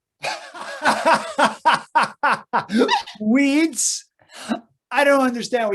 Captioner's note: laughs contemptuously